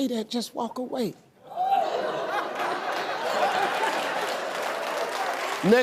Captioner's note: audience laughing